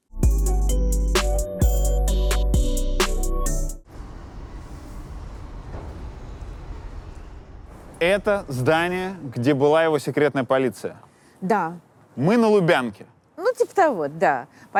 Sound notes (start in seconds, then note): 0.1 title theme; 3.8 street noise